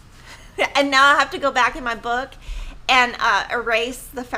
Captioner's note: laughs